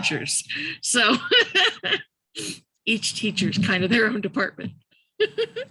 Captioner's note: laughs